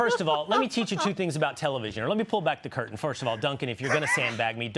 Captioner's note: laughter